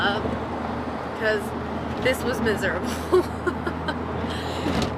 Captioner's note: laughs